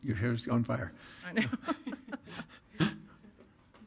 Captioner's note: laughs